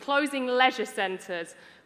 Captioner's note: none